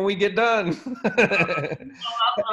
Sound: laughs

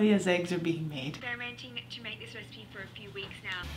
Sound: Australian accent

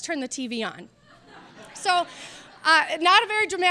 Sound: audience laughing

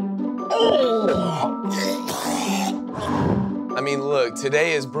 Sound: both retching

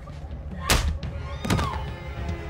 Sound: smacks

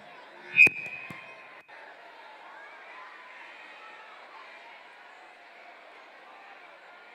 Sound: crowd noise

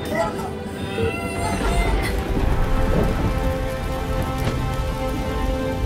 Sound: thundering

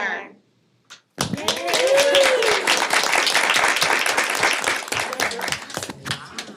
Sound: audience cheering and applauding

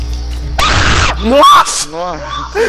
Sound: rape scream

